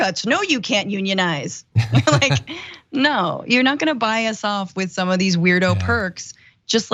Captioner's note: laugh